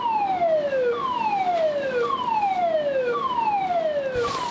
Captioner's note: alarm blaring